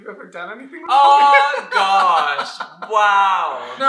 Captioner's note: laughter